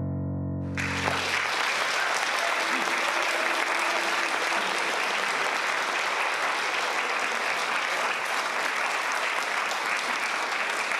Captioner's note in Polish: oklaski